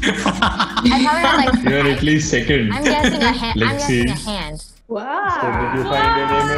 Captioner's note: everyone laughing